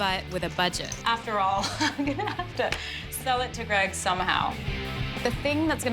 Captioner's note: laughs